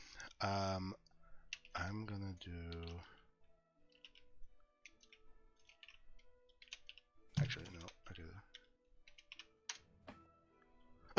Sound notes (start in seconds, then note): 3.8 typing